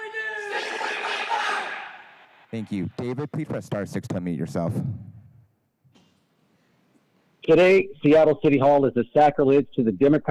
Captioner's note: crowd chanting